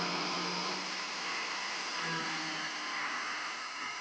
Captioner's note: grinder buzzing